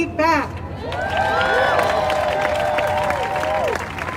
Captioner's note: crowd cheers